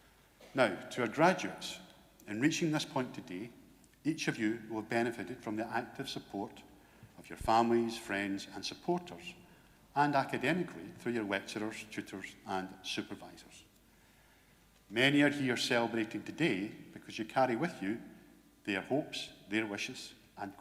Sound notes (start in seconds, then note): none